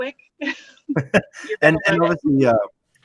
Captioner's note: both laugh